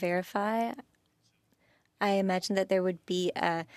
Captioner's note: speaking French